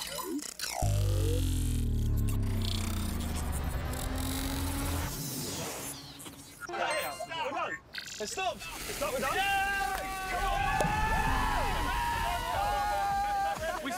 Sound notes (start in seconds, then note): 9.4 cheering